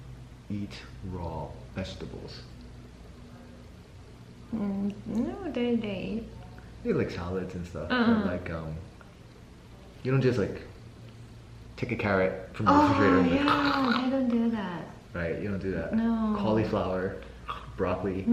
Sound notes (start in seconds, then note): 13.4 munch Munch Munch